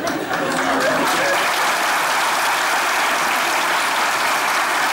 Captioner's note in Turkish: Alkış sesleri